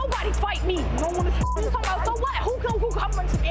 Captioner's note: beeps